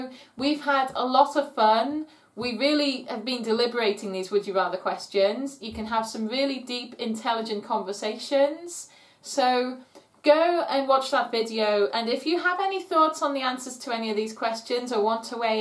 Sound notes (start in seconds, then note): none